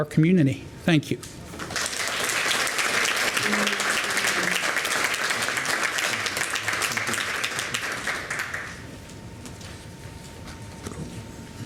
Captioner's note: applause